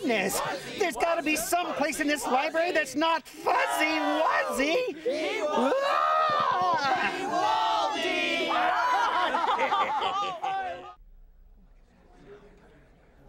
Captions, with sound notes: THERE'S GOT TO BE SOMEPLACE IN THIS LIBRARY THAT'S NOT FUZZY WUZZY! ( screams ) ( laughter )